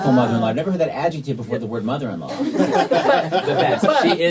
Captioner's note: laughter